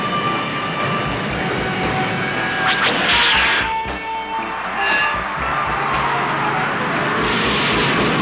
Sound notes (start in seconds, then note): 2.1 zapping